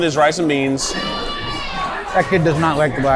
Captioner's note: child screams